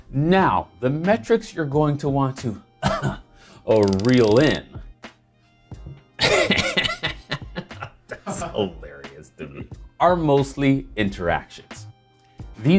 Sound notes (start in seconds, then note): 2.8 fake coughing; 6.2 laughing